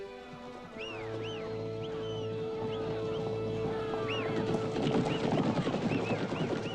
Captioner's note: low tense music; horses clomping; posse whistling